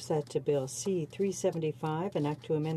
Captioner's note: speaking French